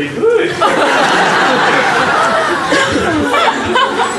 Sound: audience laughs

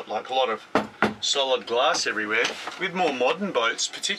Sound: knocks twice

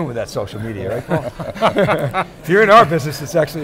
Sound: laughing

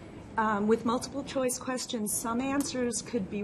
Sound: voiceover

